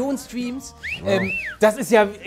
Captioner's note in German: Pfiff